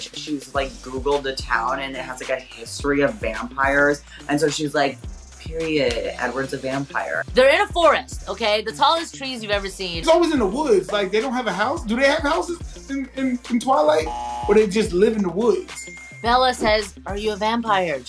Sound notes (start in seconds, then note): 14.0 buzzer rings; 15.7 bell dings